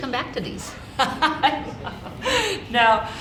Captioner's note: laughing